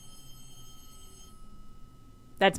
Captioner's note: landline telephone rings